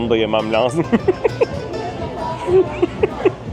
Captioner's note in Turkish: kahkaha